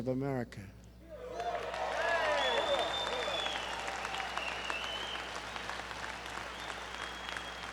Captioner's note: applause